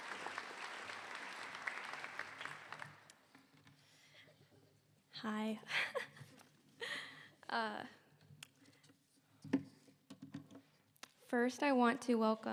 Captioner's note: applause